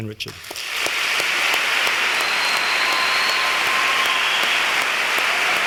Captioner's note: cheers and applause